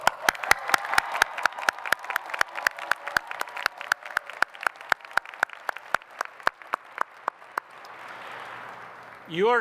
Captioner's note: applause